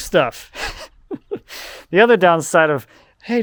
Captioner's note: chuckling